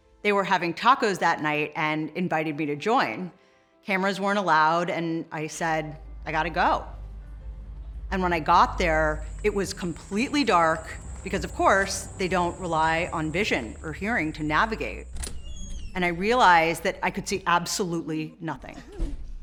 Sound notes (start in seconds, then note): 15.1 door creaking